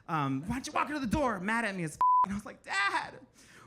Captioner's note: beep